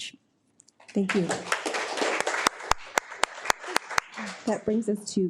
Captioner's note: audience applauding